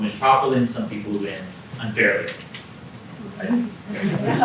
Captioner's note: laughter